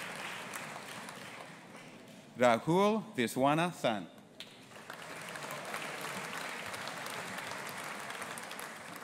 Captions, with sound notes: Rahul Viswanathan. (AUDIENCE APPLAUDING)